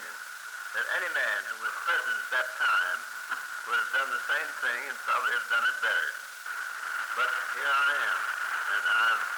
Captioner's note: none